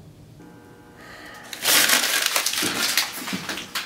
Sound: sighs; paper crumpling sound

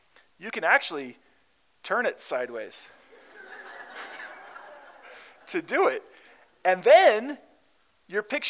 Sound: laughter

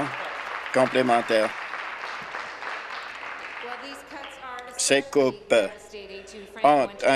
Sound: applause

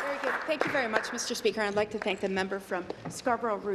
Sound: applause

